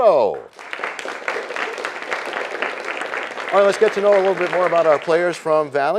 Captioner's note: applause